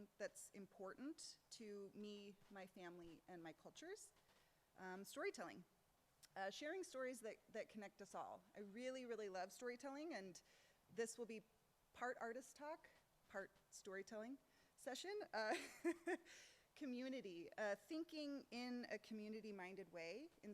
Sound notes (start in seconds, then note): 15.9 laughs